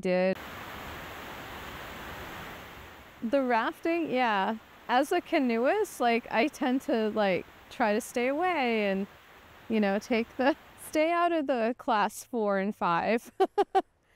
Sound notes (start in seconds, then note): 2.1 water rushing